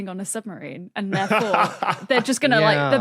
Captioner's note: laughs